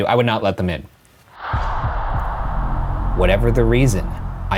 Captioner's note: dramatic whooshing